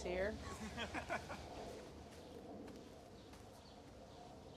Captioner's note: boys laughing